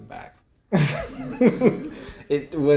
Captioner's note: audience laughing